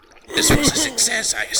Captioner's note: disbelief; old bastard noises